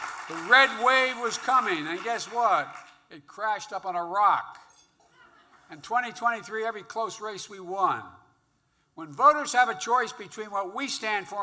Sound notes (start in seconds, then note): 0.0 applause; 5.1 laughter